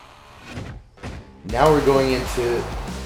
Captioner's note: gunfire popping; upbeat music